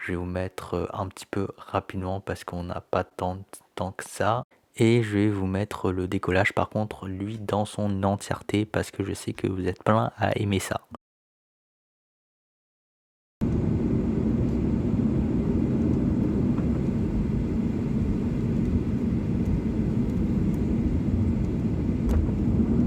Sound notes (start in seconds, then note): 11.8 engine noise